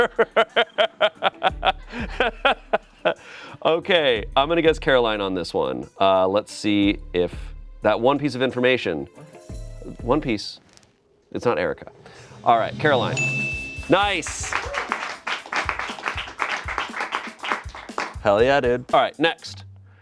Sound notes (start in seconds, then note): 0.0 laughing; 13.1 bell dings; 17.0 friends clap